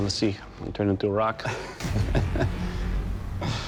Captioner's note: laughs